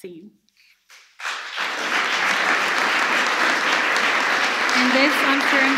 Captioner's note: applause